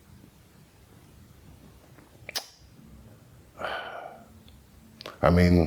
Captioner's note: sigh